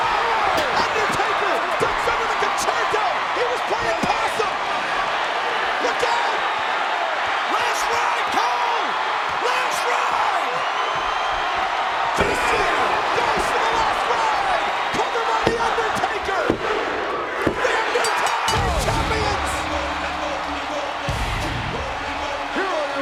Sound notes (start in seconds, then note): 4.6 presenter speaking faintly off mic; 6.7 crowd cheering; 11.8 body thudding; 18.1 bell dinging; 18.6 upbeat music; 21.0 crowd cheering